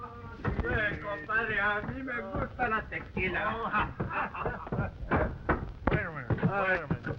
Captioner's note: Pablo speaking in foreign language